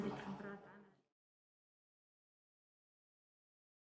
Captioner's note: silence